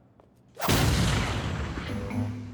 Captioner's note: explosion